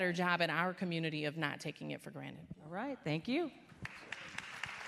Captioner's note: applause